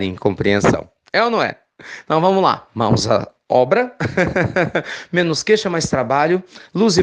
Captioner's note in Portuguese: risos